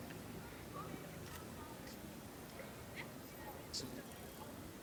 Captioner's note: people chattering faintly